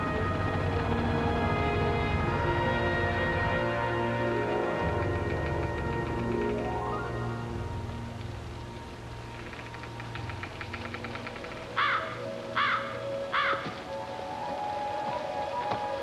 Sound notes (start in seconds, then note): 6.9 ice pattering; 11.7 crow cawing